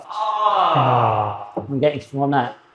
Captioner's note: panel groans